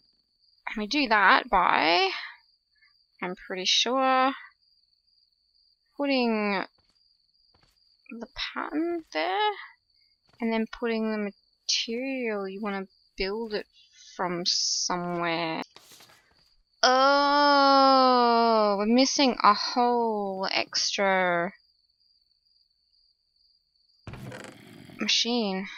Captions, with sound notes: And we do that by... I'm pretty sure... putting the pattern there? And then putting the material you want to build it from somewhere... [paper flips] OHHHHHHH! We're missing a whole extra machine.